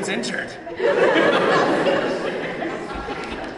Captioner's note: laughter